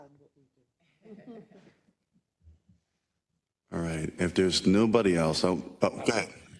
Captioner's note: laugh